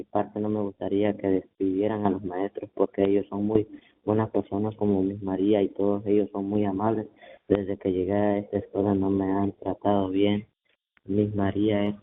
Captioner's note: speaking in spanish